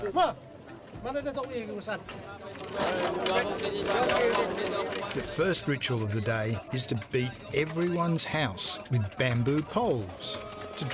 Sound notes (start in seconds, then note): 2.1 people chanting in foreign language